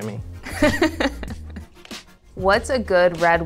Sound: interviewer laughs

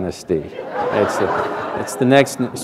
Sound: laughter

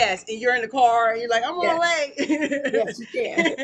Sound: laughs

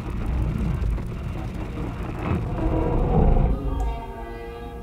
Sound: low base sounds and screech

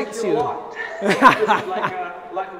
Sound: laughs loudly

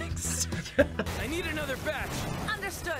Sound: laughs

